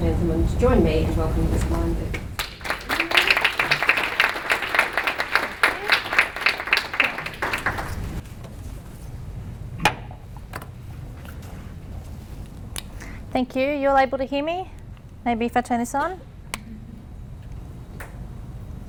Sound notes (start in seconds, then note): 2.3 applause